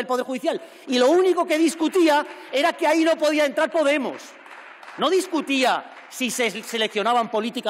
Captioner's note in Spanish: Aplausos